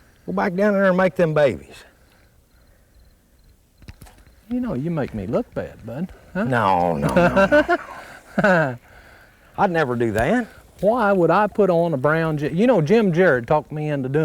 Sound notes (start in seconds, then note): 6.7 laughter